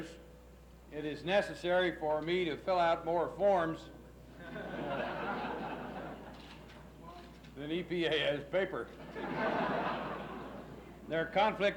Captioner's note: laughs